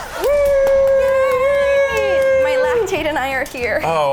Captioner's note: both cheer